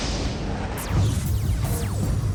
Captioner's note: blast sound; laser weapon sounds